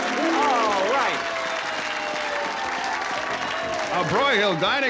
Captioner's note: audience cheering